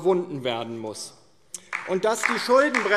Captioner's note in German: Beifall DIE LINKE